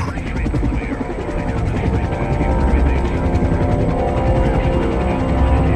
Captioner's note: brooding music; blades whirring